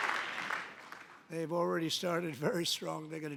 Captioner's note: applause